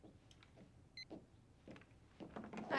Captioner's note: footstep